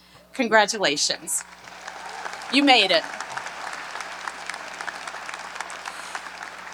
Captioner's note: audience applauds